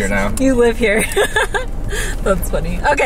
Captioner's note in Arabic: كريستال يضحك